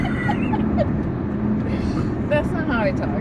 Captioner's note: talks gibberish in southern accent; both laugh